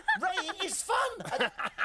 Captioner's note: both laughing